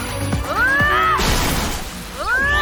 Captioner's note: static